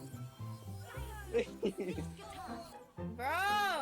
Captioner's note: laughing